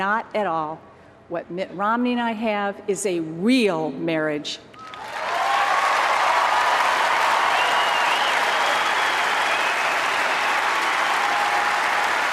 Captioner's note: applause